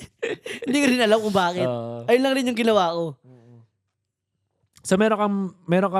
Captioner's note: laughs